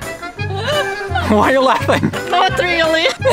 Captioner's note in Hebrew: צחוק